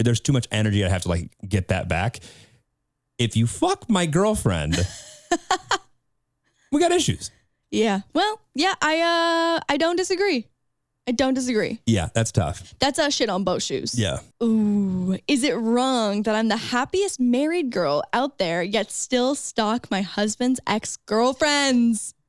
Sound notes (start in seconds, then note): 4.7 laughing